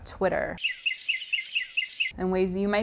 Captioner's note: birds tweeting and chirping